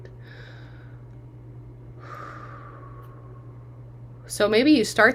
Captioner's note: exhaling